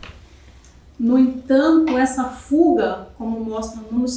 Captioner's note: speaking portuguese